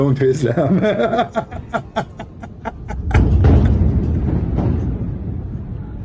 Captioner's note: Ketawa